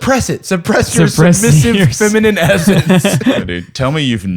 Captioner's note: laughter